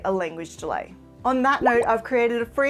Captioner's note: graphics popping